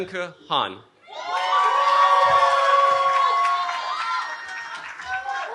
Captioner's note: cheering